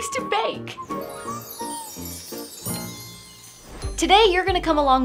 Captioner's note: upbeat music; bells chime